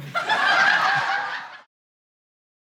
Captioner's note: audience laughing